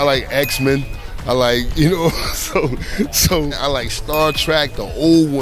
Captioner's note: laughs